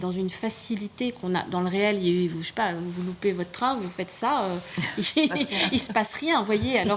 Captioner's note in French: rires